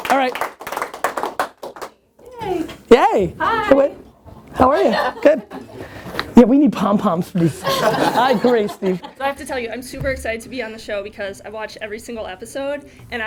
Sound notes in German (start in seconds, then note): 0.0 Klatschen; 4.7 Lachen